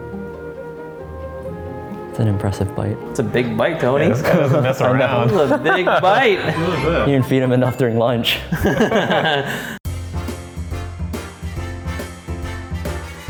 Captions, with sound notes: ( light music) - it an impressive bite. - It's a big bite Tony. - He is kind not messing around. - Its a big bite. - we didn't feed enough during lunch. (laughing) (light music)